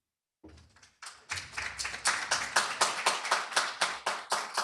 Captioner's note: applause